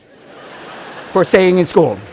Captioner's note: laughter